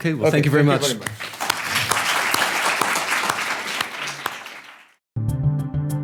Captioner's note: audience applause; ambient music